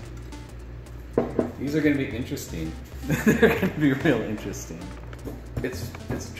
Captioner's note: laughs